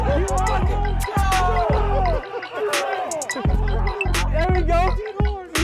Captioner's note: audience laughs